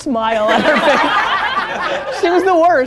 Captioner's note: laughter